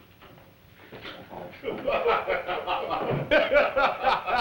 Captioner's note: laughter